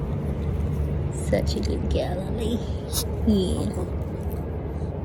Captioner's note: Ollie snuffs, licks, and grunts